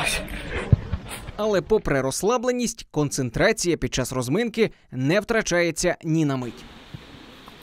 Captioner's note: voiceover